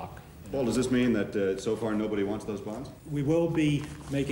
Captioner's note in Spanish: none